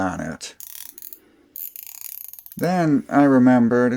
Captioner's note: rachet sounds